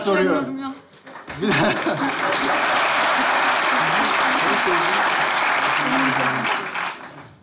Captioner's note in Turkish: Alkış sesleri